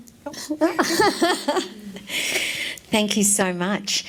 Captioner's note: laughs